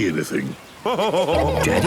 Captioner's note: laughing